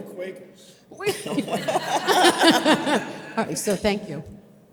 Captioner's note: audience laughs